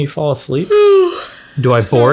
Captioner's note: lady yawning